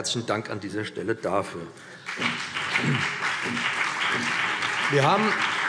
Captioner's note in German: Beifall BÜNDNIS 90/DIE GRÜNEN, CDU, SPD und Freie Demokraten